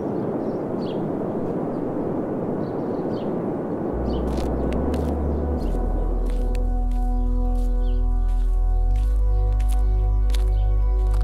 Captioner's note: frozen wind sound; birds, steps and music